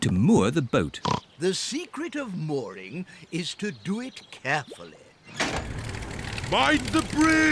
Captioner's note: oinks